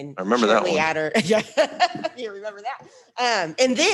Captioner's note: laughs